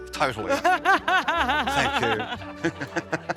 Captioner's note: she laughs